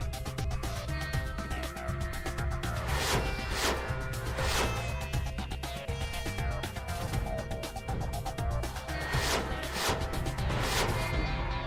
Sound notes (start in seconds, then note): 0.1 sophisticated music; 2.6 whizzing; 6.0 sophisticated music; 8.6 whizzing